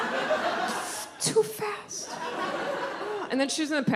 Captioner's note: audience laughs